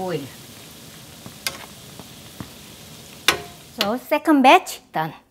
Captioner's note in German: Knistern des Öles